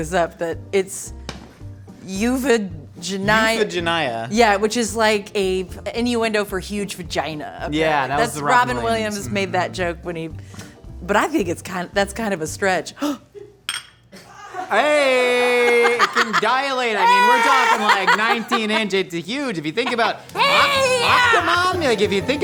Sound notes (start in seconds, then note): 14.2 laughing